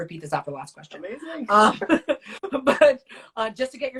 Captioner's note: both laugh